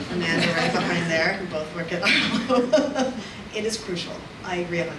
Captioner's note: audience laughs; laughs